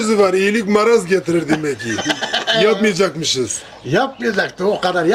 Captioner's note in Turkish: kahkaha